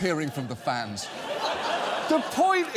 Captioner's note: audience laughs